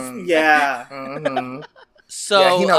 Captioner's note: laughs